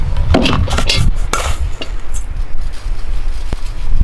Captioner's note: bowls rattling